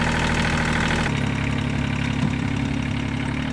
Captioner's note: engine revving